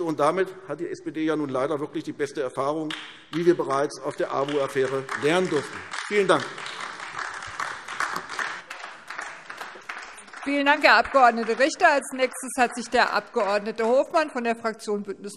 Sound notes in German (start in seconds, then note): 6.9 Beifall AfD